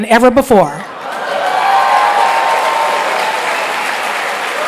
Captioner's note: applause